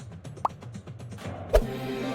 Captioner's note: pop